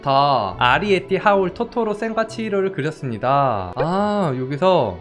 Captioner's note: voiceover